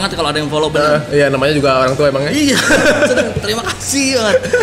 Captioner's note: laugh